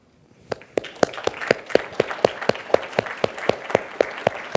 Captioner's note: audience applauds